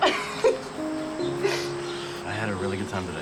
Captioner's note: Lynn laughs